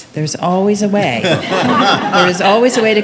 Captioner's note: attendees laughing